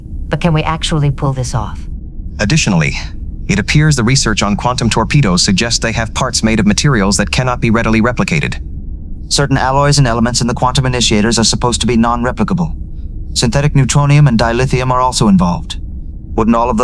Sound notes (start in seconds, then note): 8.4 in a slightly resigned tone